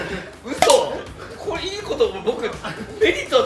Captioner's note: laughs